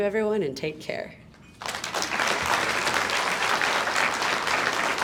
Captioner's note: audience applauds